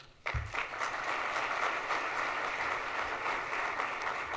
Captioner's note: audience applauds